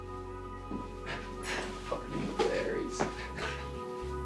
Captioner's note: scoffs; hopeful guitar